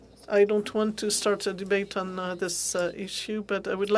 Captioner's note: speaking French